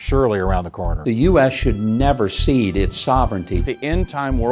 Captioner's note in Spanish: Voz en off masculina